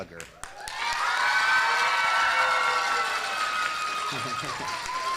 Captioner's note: audience cheers loudly